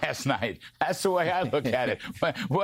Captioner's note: laughter